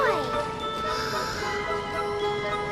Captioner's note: gasps